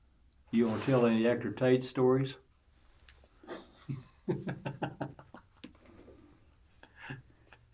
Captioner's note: laughter